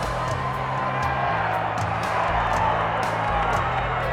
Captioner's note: audience cheers